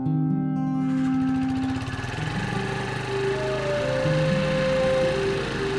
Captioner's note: engine rumbling